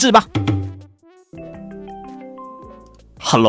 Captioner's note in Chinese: 電話聲